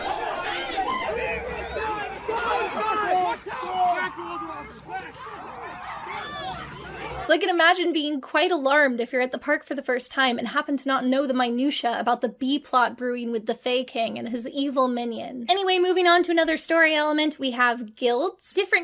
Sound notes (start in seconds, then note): 0.3 people screaming